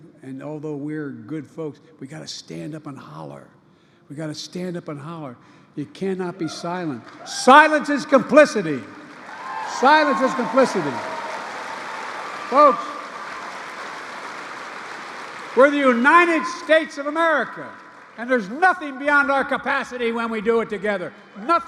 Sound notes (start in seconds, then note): 11.2 applause